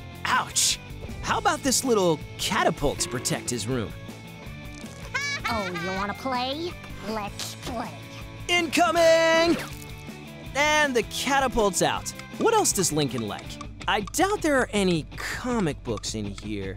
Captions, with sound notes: Ouch! How about this catapult to protect his room? [laughing] Oh, you wanna play? Let’s play. Incoming! And the catapult’s out! What else does Lincoln like? I doubt there are any comic books in here.